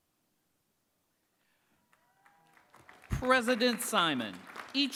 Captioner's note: applause